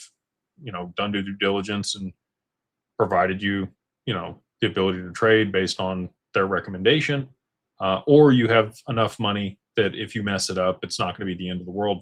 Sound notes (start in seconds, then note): none